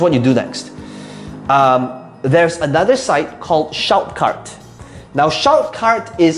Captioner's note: inhales